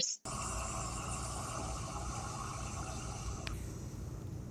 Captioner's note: machine running